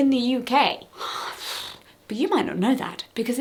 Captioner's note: sighs expasteratedly